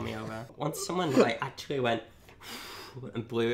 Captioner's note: blows